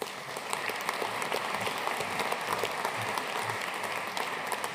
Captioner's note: audience applauding